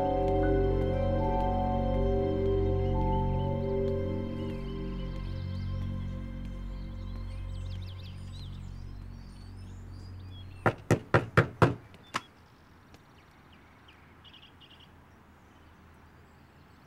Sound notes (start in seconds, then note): 4.2 birds chirping; 10.7 knocks